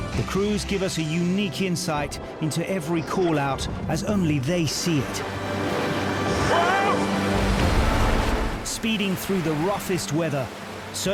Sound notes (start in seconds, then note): 5.6 waves crashing